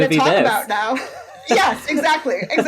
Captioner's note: laughs